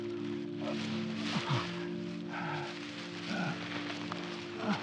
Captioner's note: Dave gasping